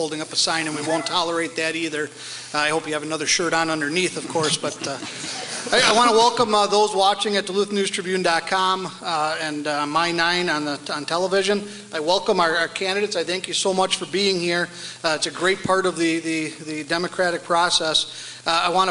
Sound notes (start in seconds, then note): 4.4 audience laughs